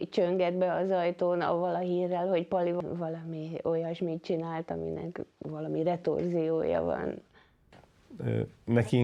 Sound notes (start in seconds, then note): 3.0 speaking foreign language